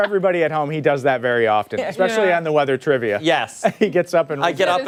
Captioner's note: laughter